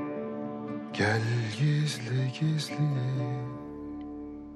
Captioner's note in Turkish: Türküyü mırıldanıyor